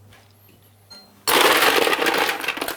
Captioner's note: clattering of ice cubes